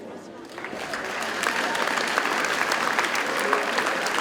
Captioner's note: audience applauds